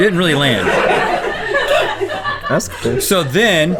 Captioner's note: crew laughing